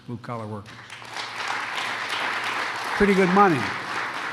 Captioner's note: applause